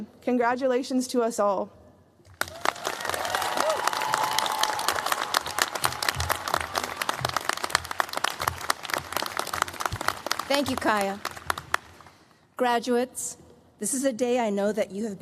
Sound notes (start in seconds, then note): 0.0 non-english; 2.4 cheers, applause